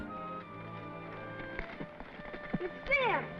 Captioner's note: horse hooves clomping